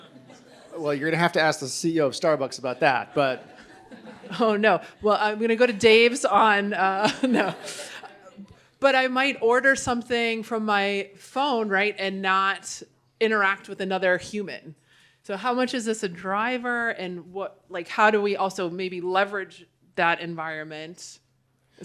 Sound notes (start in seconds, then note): 2.8 laughter; 7.0 chuckles